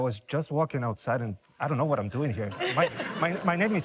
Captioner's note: laughter